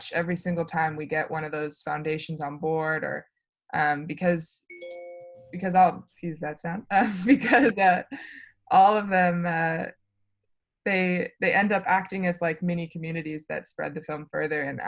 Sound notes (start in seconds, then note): 6.3 phone alerts